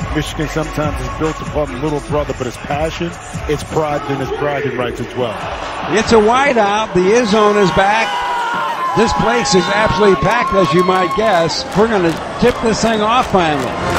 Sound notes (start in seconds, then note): 9.1 fans cheering voraciously